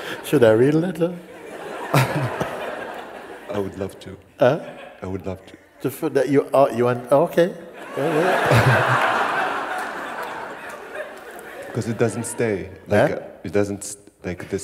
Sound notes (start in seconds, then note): 1.2 laughter; 7.7 laughter